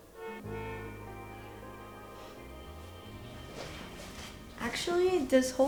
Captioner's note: car horn honking